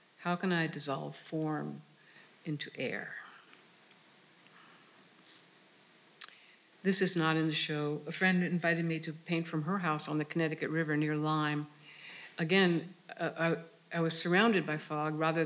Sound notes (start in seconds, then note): none